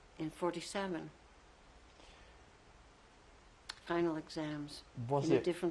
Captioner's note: pauses for 3 seconds